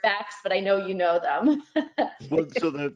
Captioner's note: laughs